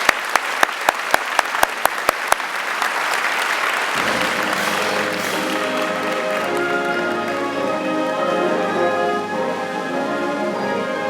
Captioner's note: applause